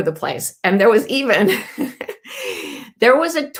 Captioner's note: laughing